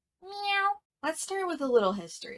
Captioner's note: meowing